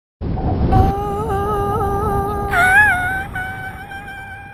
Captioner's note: subdued screaming